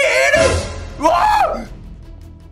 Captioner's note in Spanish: Sorprendido